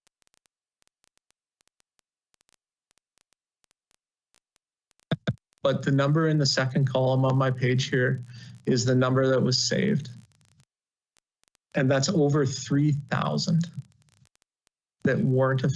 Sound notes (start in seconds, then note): 5.6 audio interruption